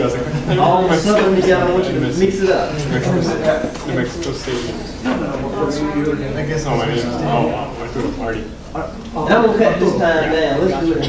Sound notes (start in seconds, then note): 3.4 classroom chatter